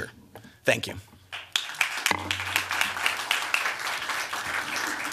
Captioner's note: applause